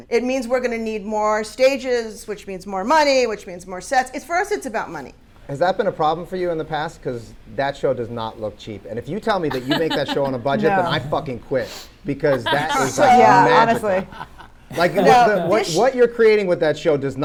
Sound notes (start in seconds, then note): 12.3 panelists laughing